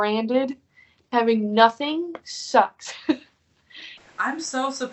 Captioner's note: laughing